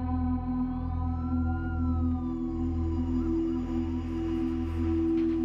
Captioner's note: sirens blaring